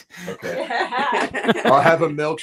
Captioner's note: laughs